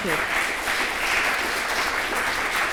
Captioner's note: applause